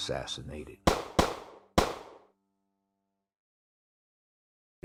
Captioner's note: gun shot blasts